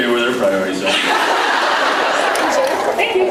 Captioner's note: laughs